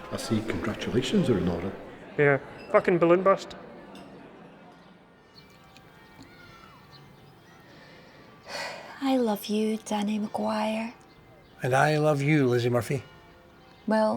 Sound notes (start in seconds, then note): 5.5 bells chiming; 8.4 sighs